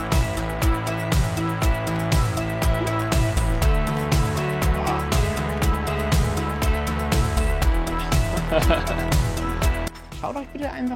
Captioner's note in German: peinliches lachen